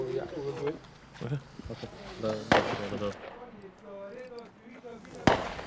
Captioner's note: weapons firing in distance; speaking foreign language